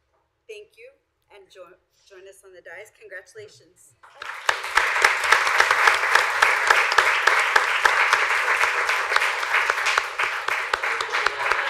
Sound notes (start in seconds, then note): 4.0 applause; 10.8 laughter